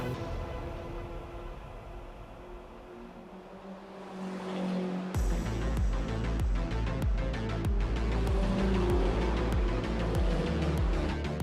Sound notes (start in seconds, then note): 1.8 car engines roaring; 5.1 upbeat music; 6.1 car engines roaring